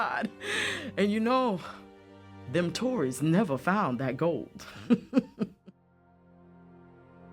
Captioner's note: laughs; pensive music